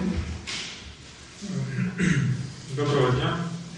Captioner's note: clearing his throat